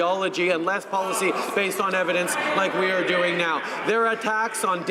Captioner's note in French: voix de l'interprte